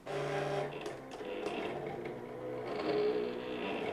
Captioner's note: machine whirring